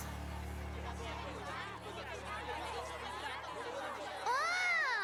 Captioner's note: shouting